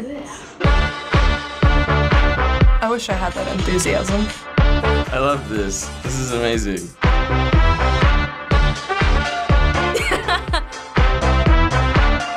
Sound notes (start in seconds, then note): 0.2 energetic music; 9.9 giggling